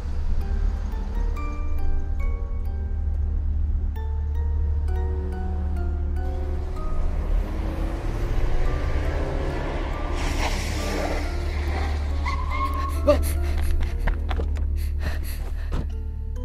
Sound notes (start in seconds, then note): 12.0 car sudden break; 14.6 girl breathing fast